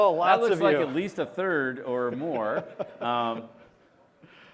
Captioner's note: laughter